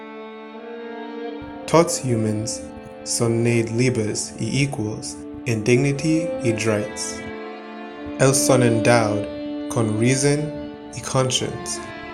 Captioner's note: speaking Britannian